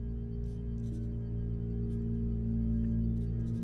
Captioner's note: pen scratching